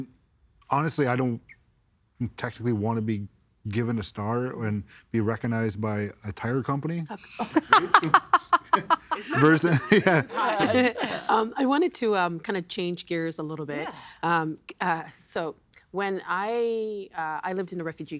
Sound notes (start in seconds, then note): 7.2 laughing